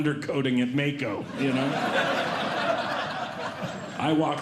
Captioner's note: audience Laughing